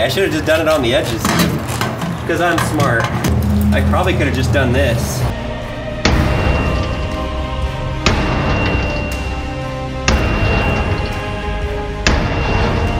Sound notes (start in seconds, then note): 6.2 hammer banging; 10.1 dramatic music